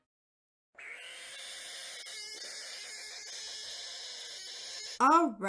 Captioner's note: frog screeching